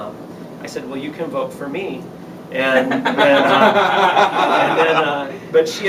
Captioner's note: laughter